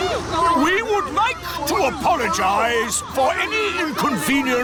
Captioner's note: all grumble